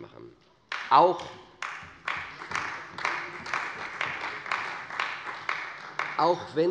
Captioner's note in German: Beifall bei der CDU